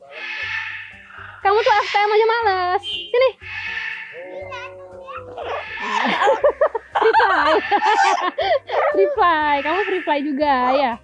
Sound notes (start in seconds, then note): 7.6 chuckled